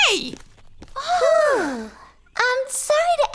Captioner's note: sighing